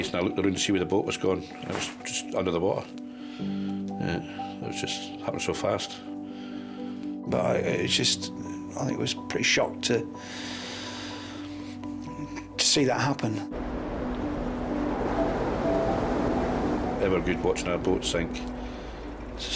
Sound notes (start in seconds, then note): 3.3 gentle music; 15.1 gentle music; 15.1 waves roaring